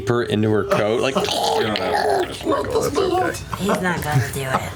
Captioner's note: weasel hissing